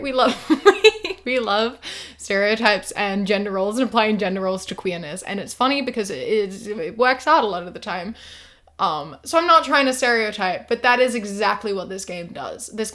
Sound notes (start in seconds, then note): 0.5 laughs